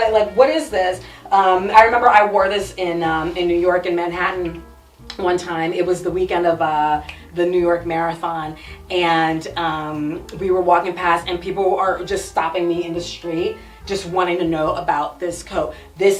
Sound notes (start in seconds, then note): 7.0 snaps fingers